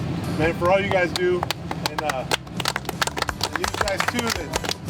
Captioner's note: all clapping